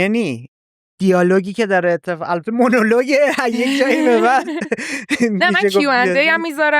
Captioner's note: laughs